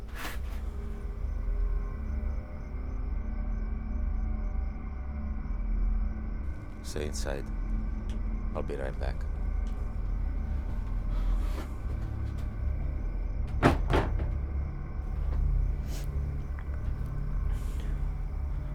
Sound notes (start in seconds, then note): 13.2 door thudding; 15.6 gentle tense music